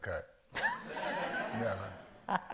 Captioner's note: all laugh